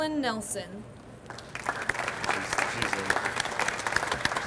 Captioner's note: audience applauds